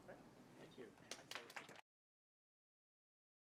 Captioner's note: audience clapping